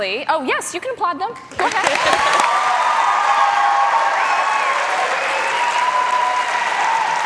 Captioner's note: cheers and applause